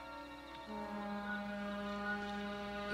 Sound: distant Ferry Horn

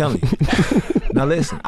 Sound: laugh

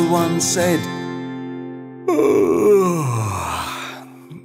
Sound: yawning sound

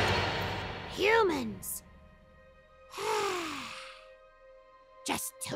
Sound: sigh

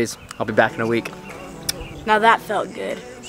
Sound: kiss

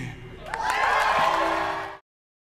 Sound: audience cheering

